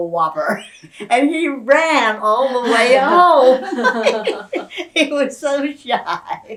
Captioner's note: laughter